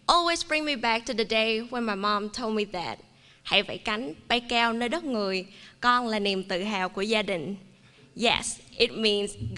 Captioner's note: non-english speech